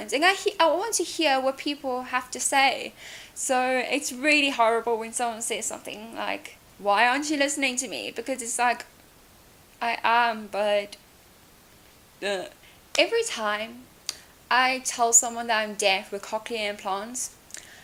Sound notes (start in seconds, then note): 12.0 makes gross noise